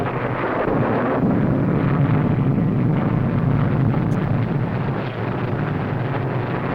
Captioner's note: thunder rumbling; plane whirring